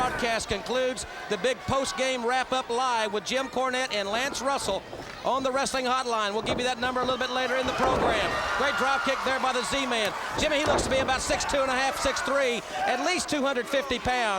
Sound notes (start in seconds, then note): 8.6 crowd cheering